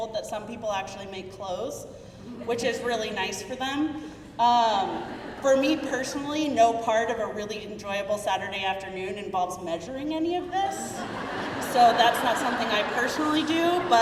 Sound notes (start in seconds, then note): 1.2 crowd murmuring; 10.8 crowd laughing